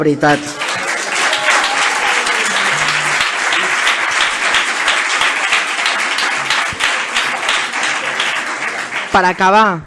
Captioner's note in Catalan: aplaudiments